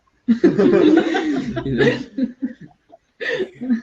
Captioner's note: all laughing